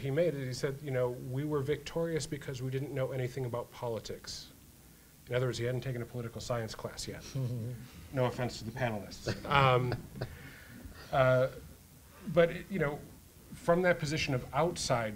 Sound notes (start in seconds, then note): 9.2 panel chuckles lightly; 9.3 panel laughs